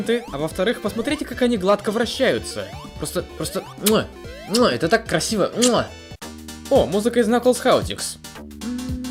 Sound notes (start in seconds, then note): 3.9 kiss; 8.5 singing along